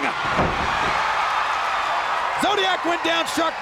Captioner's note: crowd screaming; body slamming